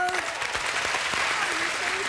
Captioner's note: audience applauding